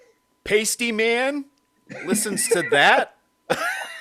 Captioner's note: both laughing